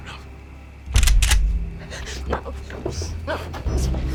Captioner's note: shotgun clicks